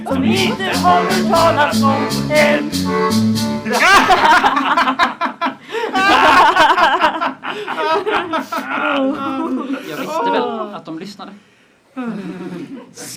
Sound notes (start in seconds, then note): 3.6 the captains laugh; 11.9 audience laughs